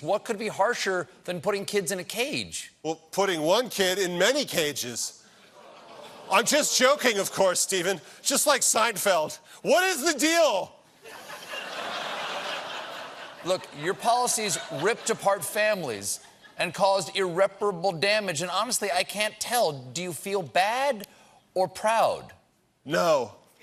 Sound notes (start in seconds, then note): 11.0 laughter